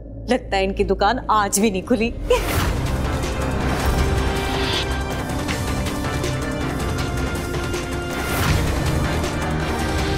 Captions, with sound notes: I guess they have no patients even today! [giggling] [intense music playing]